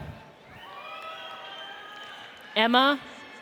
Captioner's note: audience cheers